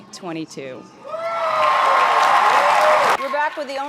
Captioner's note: crowd cheering and applauding